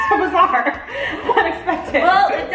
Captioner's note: all laugh